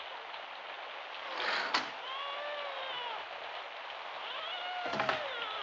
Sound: door opens and closes

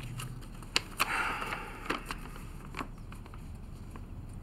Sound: Jake sighs

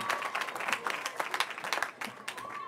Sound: cheering

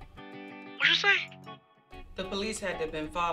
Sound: voiceover

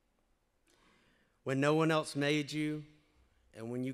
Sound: none

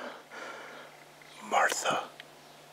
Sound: heavy breathing; heavy breathing

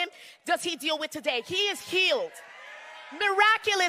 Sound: crowd cheering

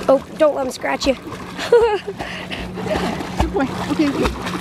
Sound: laughing

